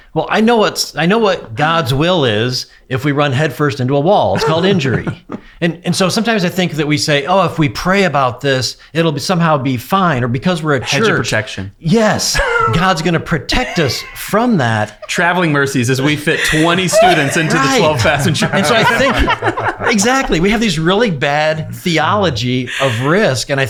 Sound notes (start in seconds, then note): 18.7 laughing